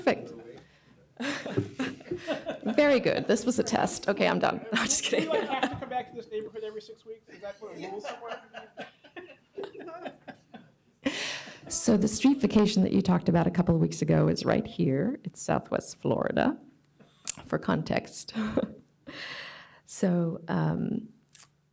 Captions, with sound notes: YOU KNOW. PERFECT. VERY GOOD. THIS WAS A TEST. OK. I'M DONE. JUST KIDDING. >> DON'T WE HAVE TO COME BACK TO THIS NEIGHBORHOOD EVERY SIX WEEKS? IS THAT A RULE SOMEWHERE? [LAUGHTER] >> THE STREET VACATION YOU TALKED ABOUT A COUPLE WEEKS AGO IS RIGHT HERE AT SOUTHWEST FLORIDA. FOR CONTEXT.